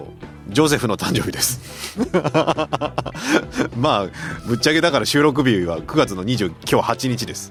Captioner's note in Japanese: 笑い